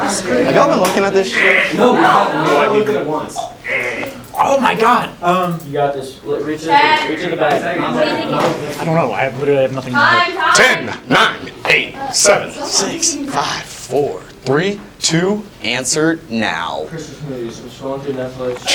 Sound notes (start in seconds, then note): 3.3 green making impatient noises; 7.7 talking